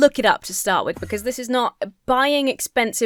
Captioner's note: Enderman whooshes